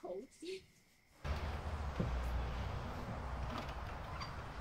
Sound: traffic rumbling

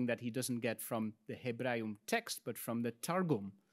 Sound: speaks in Latin

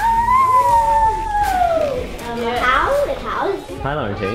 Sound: woman howls

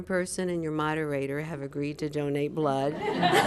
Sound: laughter

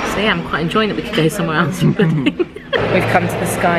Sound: laughing

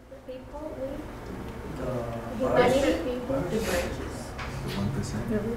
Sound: students mumbling answers

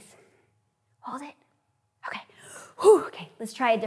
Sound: sighs

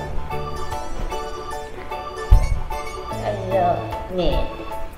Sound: laughs

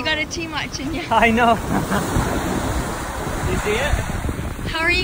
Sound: laughs

